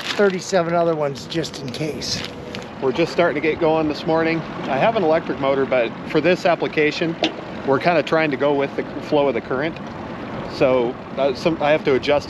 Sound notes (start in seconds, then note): 1.7 water lapping